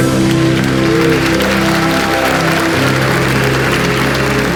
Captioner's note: audience applauds; intriguing music